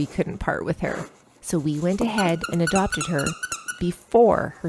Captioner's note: squeak